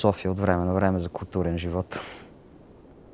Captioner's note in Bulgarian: смее се